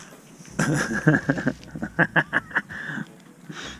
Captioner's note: laughs